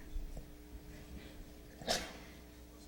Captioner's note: sneezes